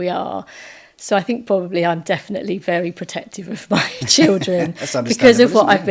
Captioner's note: laughing